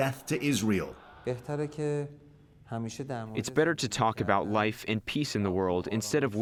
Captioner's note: through translator